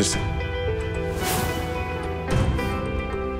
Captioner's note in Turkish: Efekt sesi